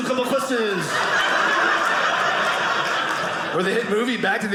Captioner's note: audience laughing